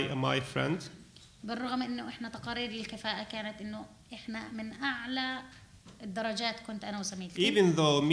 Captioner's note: speaking arabic